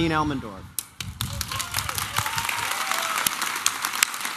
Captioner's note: applause and cheering